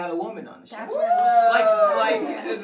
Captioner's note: cheers